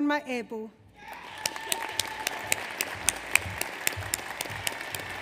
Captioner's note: audience applauds